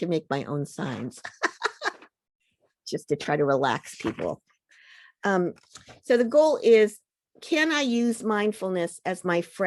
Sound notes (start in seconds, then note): 1.2 laughs